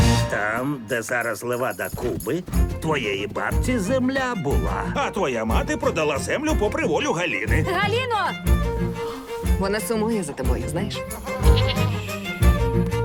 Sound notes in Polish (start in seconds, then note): 8.4 Halina wzdycha; 11.3 meczenie